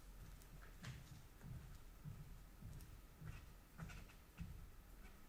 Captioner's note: footsteps tapping